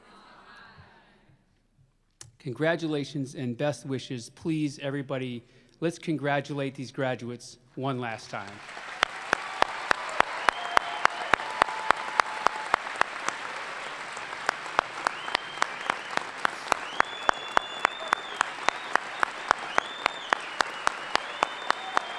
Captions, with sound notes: HAWKEYE -- CONGRATULATIONS AND BEST WISHES. PLEASE, EVERYBODY, LET'S CONGRATULATE THESE GRADUATES ONE LAST TIME. [ APPLAUSE ] [ CHEERS AND APPLAUSE ]